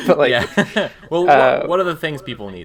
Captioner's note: all laugh